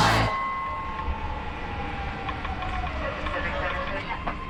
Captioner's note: subway car drones